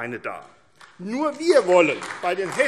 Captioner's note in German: Beifall AfD